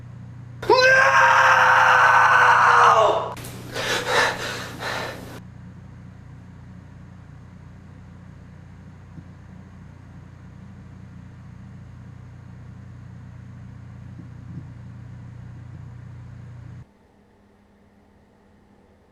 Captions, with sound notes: NOOOOOOOOOOO! [Heavy breathing]